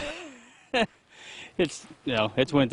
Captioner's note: laughs